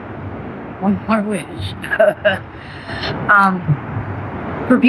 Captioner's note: chuckles